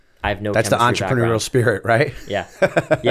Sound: laughter

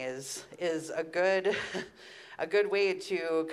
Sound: chuckles

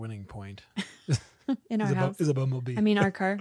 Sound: laughs

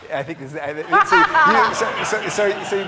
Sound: laughing

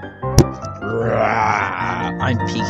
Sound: growl

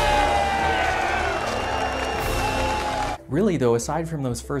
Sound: crowd cheers

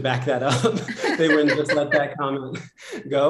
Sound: laughter

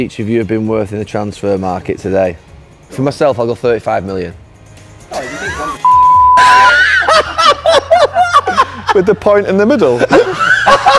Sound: laughs

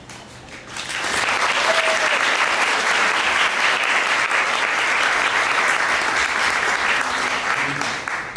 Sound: applause

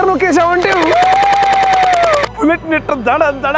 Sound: sounds of excitement

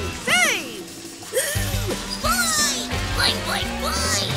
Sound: gasping

